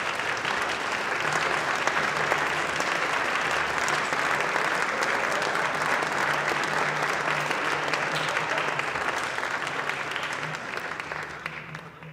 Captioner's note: applause